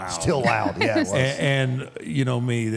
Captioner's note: laughs